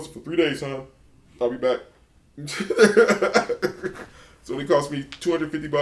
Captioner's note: laughs